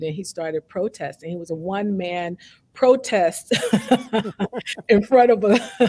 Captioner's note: both laughing